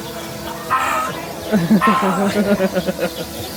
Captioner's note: shouts